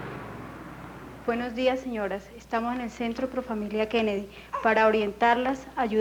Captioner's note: bus and traffic noise; woman addresses a group, speaking Colombian Spanish